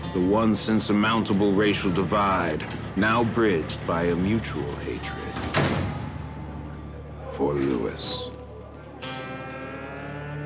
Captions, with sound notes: The once insurmountable racial divide, now bridged by a mutual hatred, (prison door slamming) for Lewis.